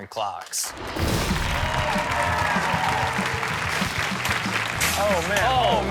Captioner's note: audience cheers; upbeat music